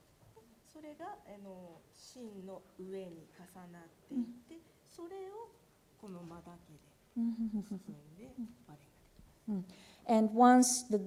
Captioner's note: speaking japanese